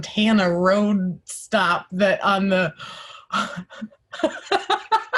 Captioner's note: laughing